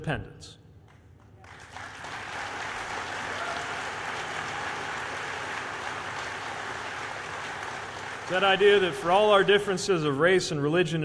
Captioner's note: applause